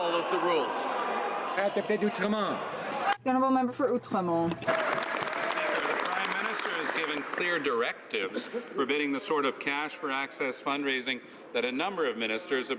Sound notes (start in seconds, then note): 8.4 some Applause